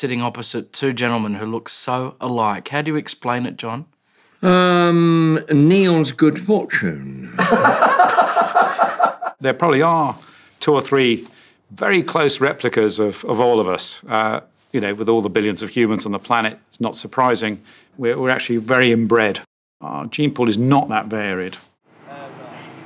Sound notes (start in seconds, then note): 7.2 laughs